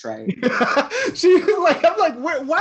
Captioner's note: laughs